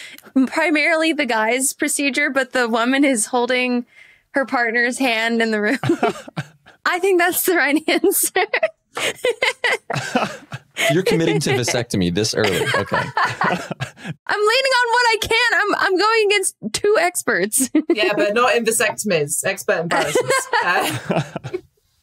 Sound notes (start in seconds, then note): 9.0 giggles; 9.0 laughs; 19.9 laugh